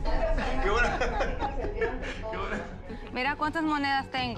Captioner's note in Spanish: ambos ríen